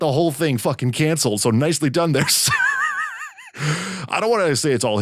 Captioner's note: wheezing